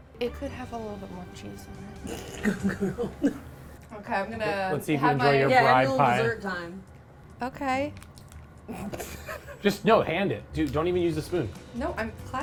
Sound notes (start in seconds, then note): 2.4 laughs; 8.8 laughs